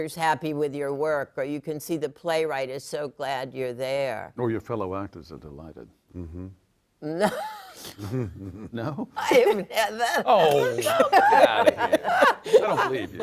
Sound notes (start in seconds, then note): 9.2 laughs